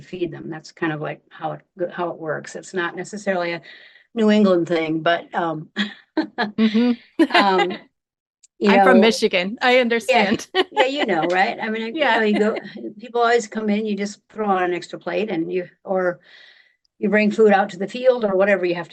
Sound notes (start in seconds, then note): 5.8 laughing; 10.1 laughing